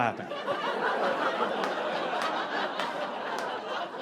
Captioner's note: audience laughing